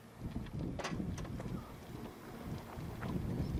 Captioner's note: wind rushes